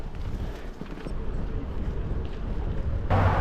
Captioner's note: heavy Traffic